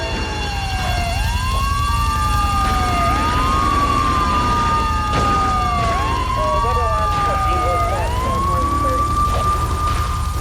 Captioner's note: sirens wailing